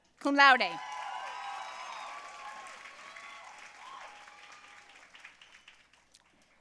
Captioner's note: audience cheering and applauding